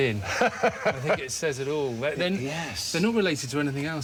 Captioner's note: Stephen laughs